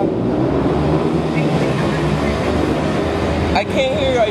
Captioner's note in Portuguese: motos passando